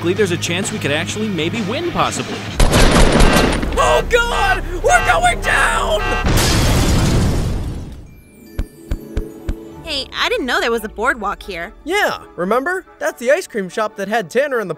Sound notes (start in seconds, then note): 2.6 guns firing; 6.2 helicopter exploding; 8.6 footsteps landing